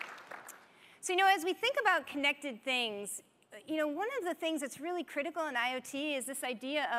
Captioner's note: applause